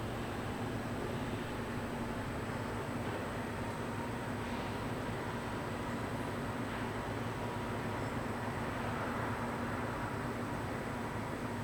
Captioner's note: wind blowing